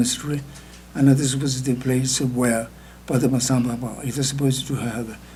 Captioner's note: speaking tibetan; speaking tibetan